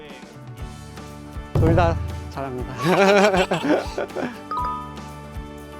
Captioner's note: laughs